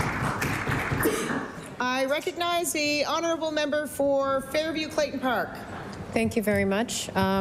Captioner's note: applause